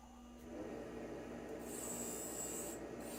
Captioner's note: sound of Baldor Motor humming